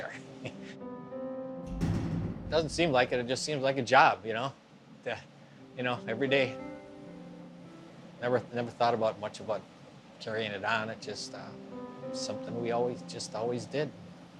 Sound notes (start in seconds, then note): 0.3 chuckles; 1.6 door clanks